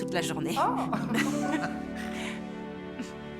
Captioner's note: laughing